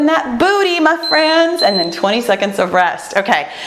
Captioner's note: timer beeps